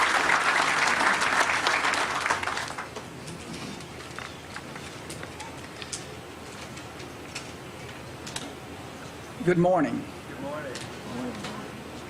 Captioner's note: applause